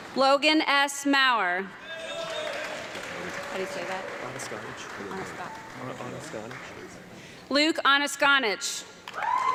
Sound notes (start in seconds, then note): 1.8 audience clapping and yelling